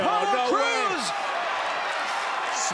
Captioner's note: crowd cheering